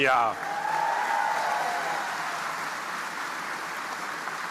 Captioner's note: audience applauding